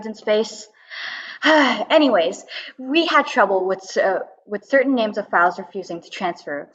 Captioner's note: sighs